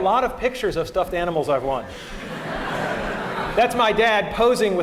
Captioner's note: laughter